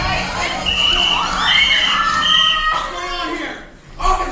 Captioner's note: whistle blows x3